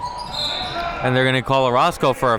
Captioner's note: whistle blows